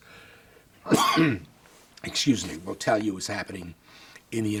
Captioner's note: coughs